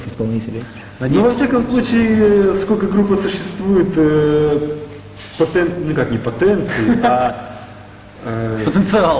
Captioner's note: laughter